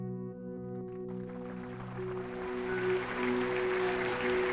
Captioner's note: gentle music; crowd applauding